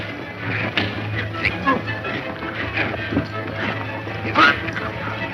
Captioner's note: men grunting